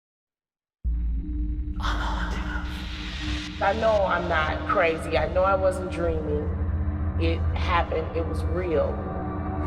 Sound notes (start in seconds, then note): 2.3 whispered